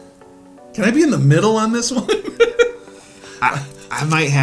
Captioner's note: laughs